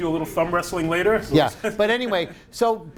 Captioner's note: laughs